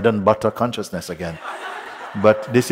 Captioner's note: laughter